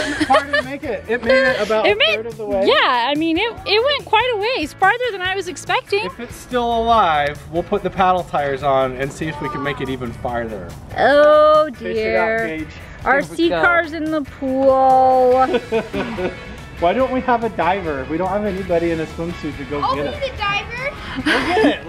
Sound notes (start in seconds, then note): 15.3 chuckles